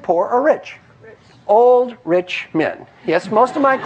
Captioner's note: laugh